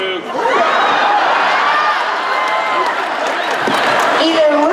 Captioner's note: screams